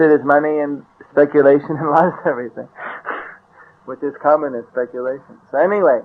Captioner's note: laughter